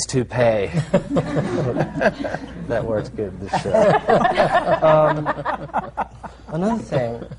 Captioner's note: laughter